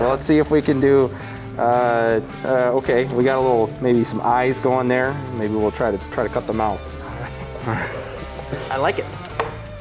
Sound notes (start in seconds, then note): 7.1 laughter